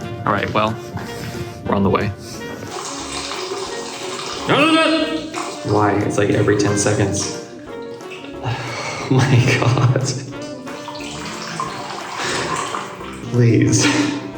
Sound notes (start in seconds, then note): 4.2 sounds of frustration and anguish; 10.7 laughing